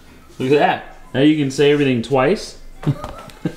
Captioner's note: chuckles